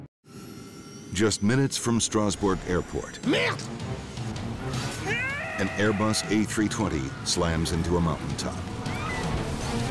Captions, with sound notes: Just minutes from Strasbourg Airport... (pilot speaking foreign language) An airbus, A320 slams into a mountaintop.